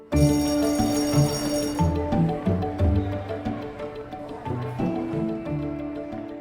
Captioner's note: bright merry music; electric bell ringing